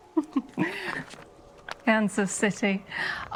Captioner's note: Moira chuckling